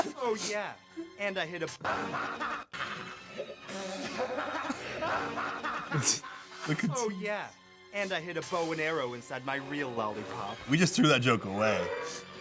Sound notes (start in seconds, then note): 0.0 laughing; 1.8 laughing